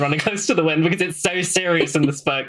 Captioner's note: laughs